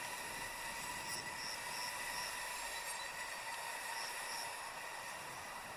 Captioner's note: crickets chirping